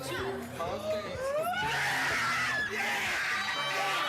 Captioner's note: cheering